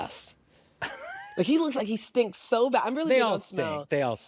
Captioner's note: laughs